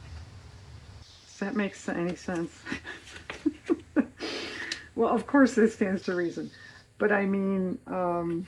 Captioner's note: laughs